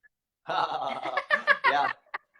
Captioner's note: laughter